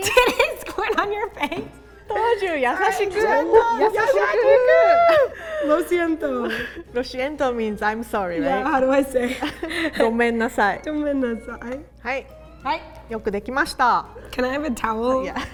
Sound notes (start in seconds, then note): 3.6 speaking in Japanese; 5.7 speaking in Spanish; 10.1 speaking in Japanese